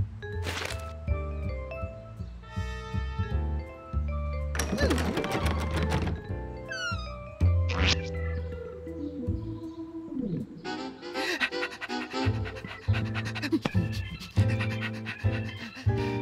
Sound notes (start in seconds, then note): 4.5 door rattling; 11.0 panting